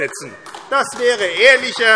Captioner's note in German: Beifall AfD